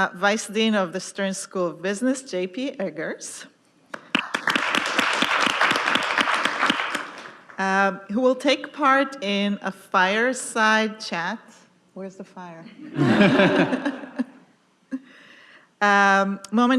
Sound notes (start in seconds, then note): 4.0 audience applauding; 12.8 audience laughing